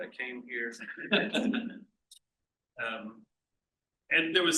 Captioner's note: laughs